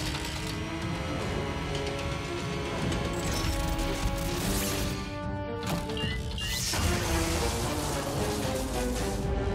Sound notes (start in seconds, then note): 3.4 electricity crackling; 5.8 drone beeping